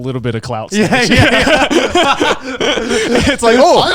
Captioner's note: all laughing